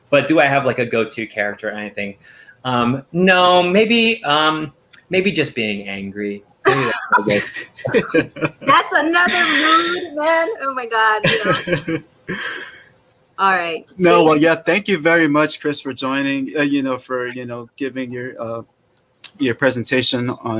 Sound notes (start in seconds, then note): 6.7 laughing